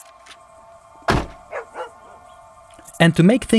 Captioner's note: dog barking